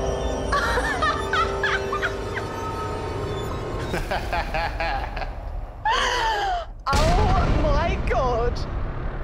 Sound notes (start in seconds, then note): 0.2 laughs hysterically; 3.7 chuckles